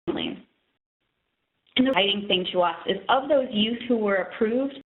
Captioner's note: audio dropping